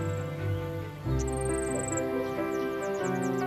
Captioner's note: chirps